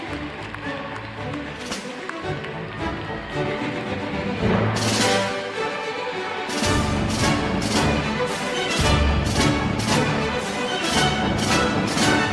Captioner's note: cheering and applause